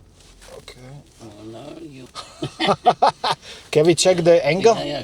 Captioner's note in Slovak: smiech